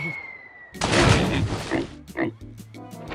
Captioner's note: air whistling; oink oink